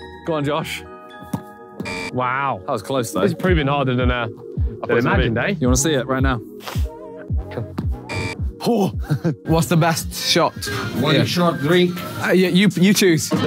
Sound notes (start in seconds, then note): 1.8 buzzer buzzing; 8.0 buzzer buzzing